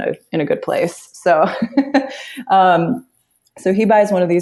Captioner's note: laughs